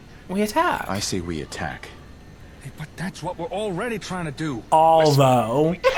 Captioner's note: laughs